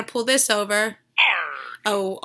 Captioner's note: growling